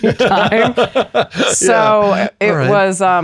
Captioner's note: laughs